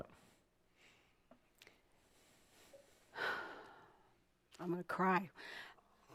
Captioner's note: sighing